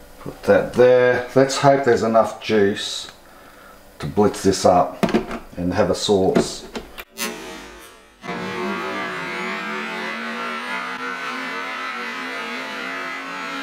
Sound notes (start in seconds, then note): 7.6 blender whirring